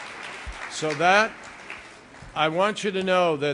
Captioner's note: applause